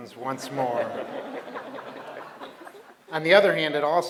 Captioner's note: laughter